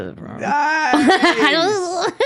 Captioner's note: laughing